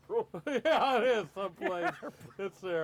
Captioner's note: laughing